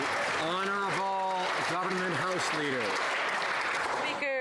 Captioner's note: some Applause